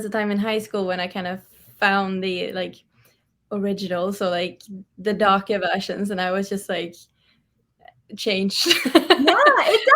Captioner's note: laughs